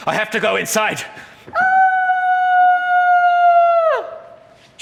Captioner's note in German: schreit